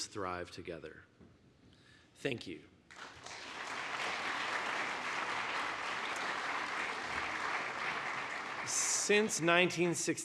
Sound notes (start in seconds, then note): 5.8 applause